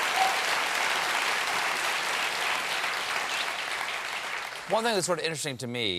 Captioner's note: cheers and applause